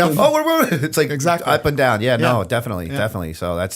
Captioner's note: chuckle